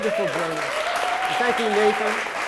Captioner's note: audience applauds